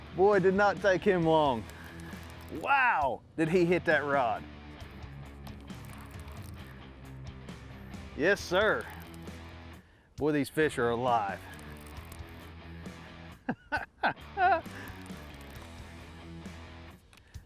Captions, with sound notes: Boy, did not take him long. Wow, did he hit that rod! Yes, Sir. Boy, these fish are alive. (laughing)